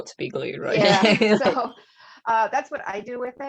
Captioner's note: laughter